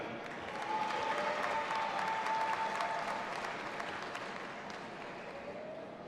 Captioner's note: audience applauding and cheering